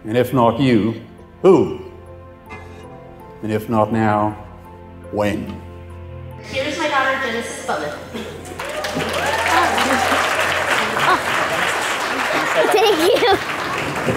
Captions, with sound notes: And if not you, who? And if not now, when? - Here is my daughter Genesis Butler (applause) - Thank you.